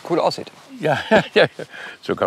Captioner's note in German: lachend